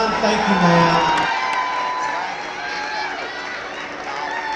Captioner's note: crowd cheers